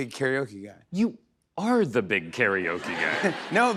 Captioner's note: laughter